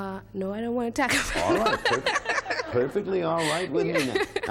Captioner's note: laughs